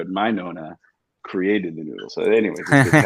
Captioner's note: laughs